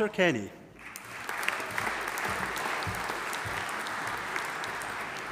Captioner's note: audience applauding